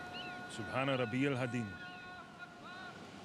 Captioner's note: speaks in arabic